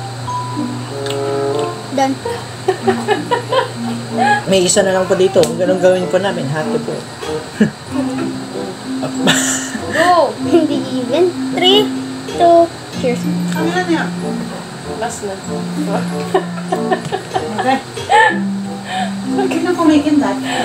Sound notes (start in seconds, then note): 9.0 laughing